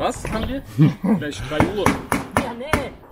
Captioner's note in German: kichern